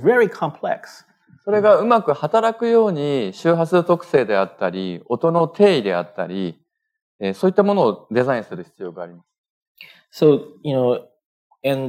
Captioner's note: speaking japanese